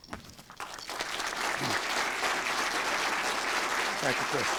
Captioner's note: applause